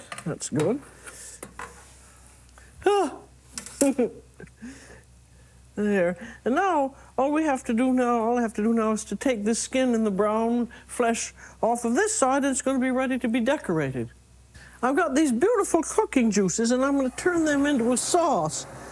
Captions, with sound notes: That's good. (sighs, giggles) There. And now all we have to do now-- all I have to do now is to take this skin and the brown flesh off of this side, and it's gonna be ready to be decorated. I've got these beautiful cooking juices and I'm gonna turn them into a sauce,